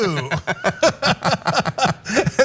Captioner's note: laugh